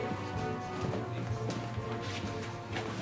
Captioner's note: footstep